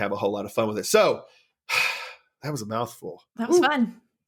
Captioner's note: sigh